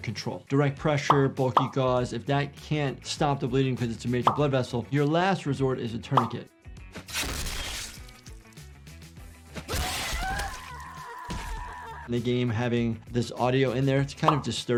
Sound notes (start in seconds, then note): 7.1 weapon slashes; 9.6 character screams